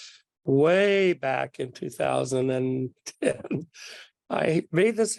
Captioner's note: laughs